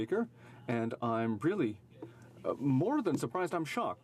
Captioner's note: speaking in french